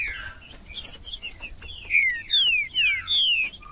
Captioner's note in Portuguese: trinca ferro cantando